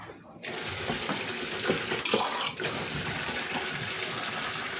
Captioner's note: water running